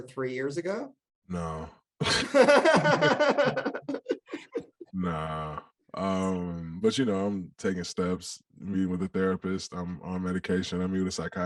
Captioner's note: all laugh